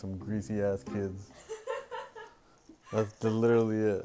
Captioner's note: woman laughs